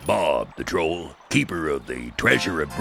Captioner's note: none